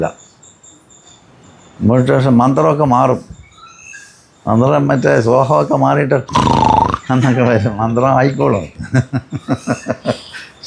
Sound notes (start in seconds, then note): 6.3 snoring sound; 9.1 laughing